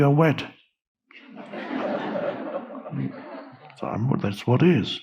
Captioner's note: audience laughing